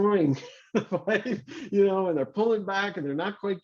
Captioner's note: laughs